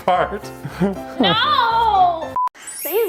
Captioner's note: beep